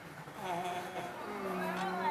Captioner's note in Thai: เสียงหัวเราะ